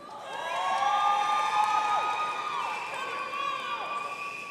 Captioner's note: audience cheering